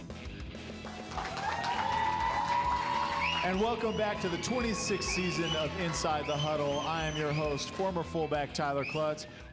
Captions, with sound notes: [applause and cheers] And welcome back to the 26th season of Inside the Huddle. I am your host former fullback Tyler Clutts.